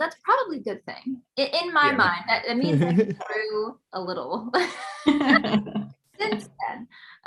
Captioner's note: laughs